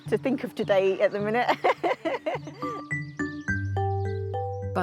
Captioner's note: laughing